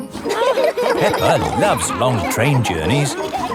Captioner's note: laughing